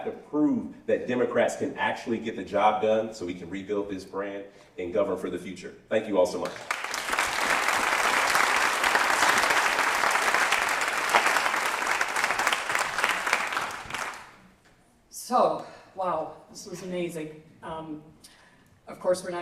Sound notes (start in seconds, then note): 6.4 applause